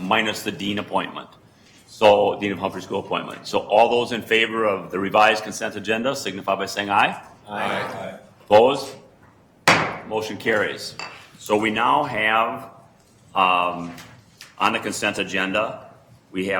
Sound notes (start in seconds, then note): 7.4 multiple voices; 9.6 gavel pounds